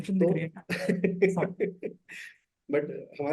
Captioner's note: laughs